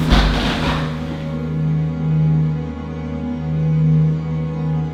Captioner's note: horse body clatters